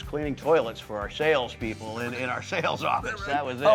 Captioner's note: laughing